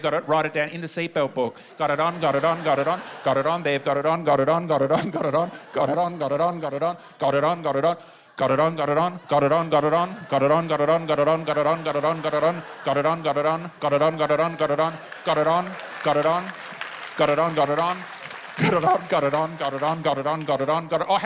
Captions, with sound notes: "Write it down in the seatbelt book. "Got it on, got it on, got it on, got it on, "they've got it on, got it on, got it on, got it on, got it on, "got it on, got it on, got it on, got it on, got it on, "got it on, got it on, got it on, got it on, got it on, "got it on, got it on, got it on, got it on, "got it on, got it on, got it on, got it on, "got it on, got it on, got it on." - (APPLAUSE) - "Got it on, got it on. "Got it on, got it on, got it on, got it on.